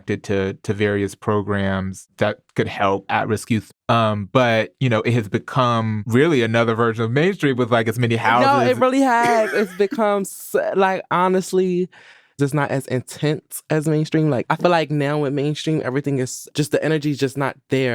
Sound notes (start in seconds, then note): 8.4 laughs